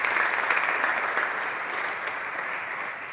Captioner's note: some applause